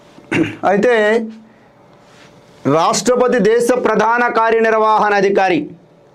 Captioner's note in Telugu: గొంతు సవరించుకోవడం